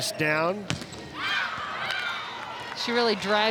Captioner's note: ball thumping